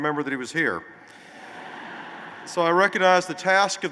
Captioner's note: laughter